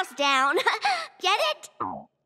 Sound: chuckles

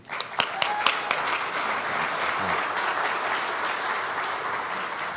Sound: audience applauds

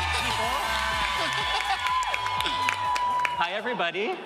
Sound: audience cheering

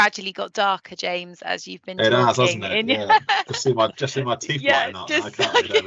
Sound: laughter

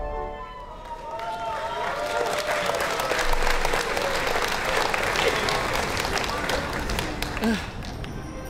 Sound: applause

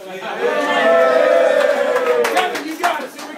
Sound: cheers

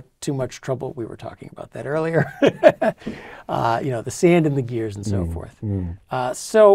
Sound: laugh

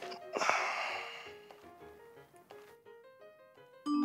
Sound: Marcus sighs

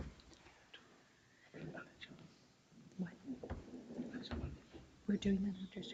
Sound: people speak distantly

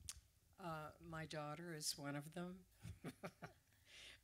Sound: laughs

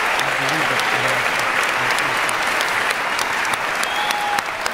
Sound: cheering, clapping

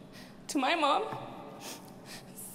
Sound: speaks in Spanish

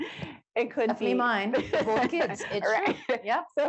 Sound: laughs; chuckles

